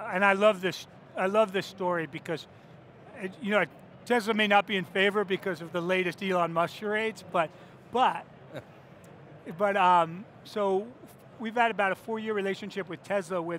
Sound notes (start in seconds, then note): 8.5 chuckles